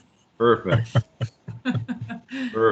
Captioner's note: laughs